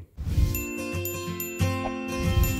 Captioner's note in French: musique entraînante; cloches qui sonnent; bruit de swoosh